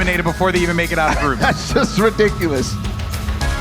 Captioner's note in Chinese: 大笑